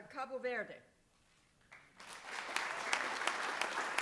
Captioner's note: applause